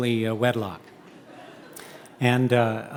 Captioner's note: audience laughing